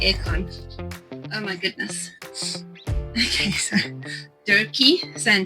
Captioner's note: laughing